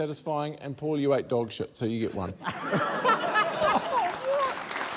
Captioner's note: laughter